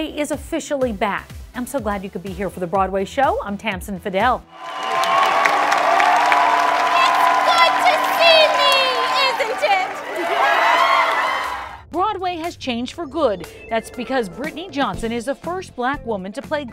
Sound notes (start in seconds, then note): 4.5 cheers and applause